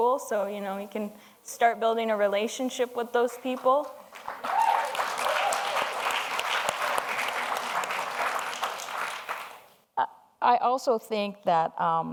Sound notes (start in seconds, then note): 4.0 audience applauds